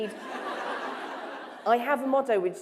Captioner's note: laughter